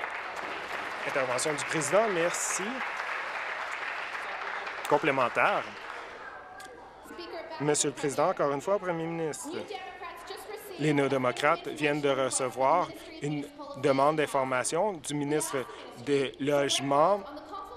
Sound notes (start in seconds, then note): 3.9 applause